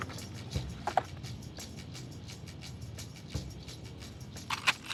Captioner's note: gun clattering; gun pump clacking